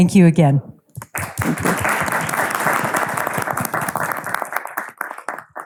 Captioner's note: audience applauding